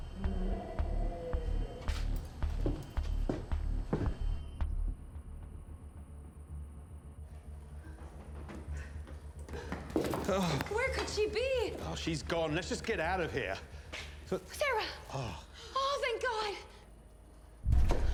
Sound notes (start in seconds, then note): 0.1 dinosaur growling; 3.4 alarm blaring